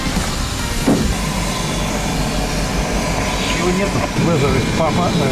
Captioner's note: plane engine roaring